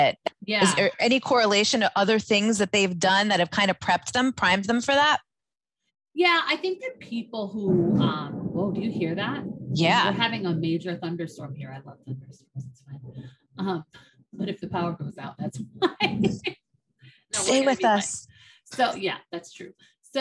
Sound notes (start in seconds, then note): 7.3 thunder roaring; 15.8 laughs